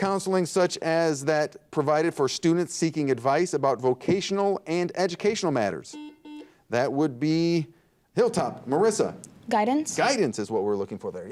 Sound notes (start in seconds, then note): 5.9 buzzer dings